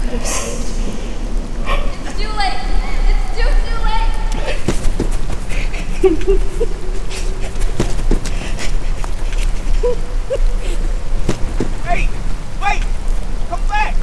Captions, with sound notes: It's too late ... it's too, too late ... (sounds of running and crying) Hey, wait. Come back.